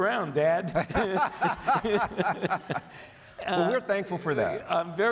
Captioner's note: audience laughs